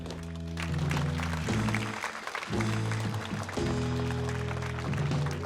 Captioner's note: audience applauding